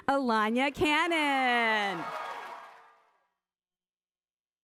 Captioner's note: applause